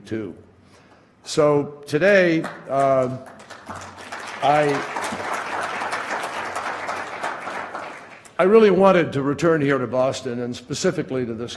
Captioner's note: applause